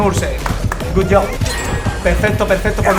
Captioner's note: claps in Spanish